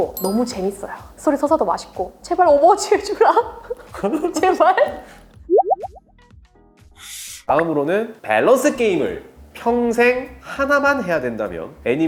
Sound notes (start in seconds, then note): 4.7 laughs